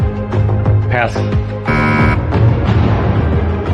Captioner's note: buzzer sounds